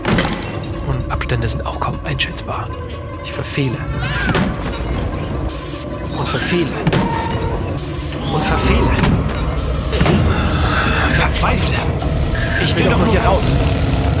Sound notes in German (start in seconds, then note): 4.0 Kampflaute; 6.6 Unheilvolle Musik